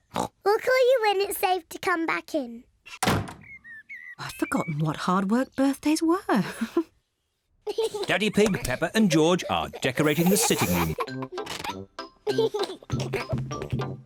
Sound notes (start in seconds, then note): 0.1 oinks; 7.7 chuckles; 12.3 giggling